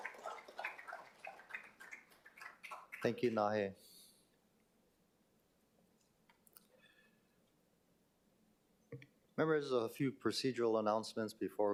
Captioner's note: applause